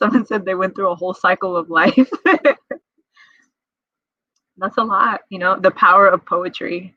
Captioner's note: laughs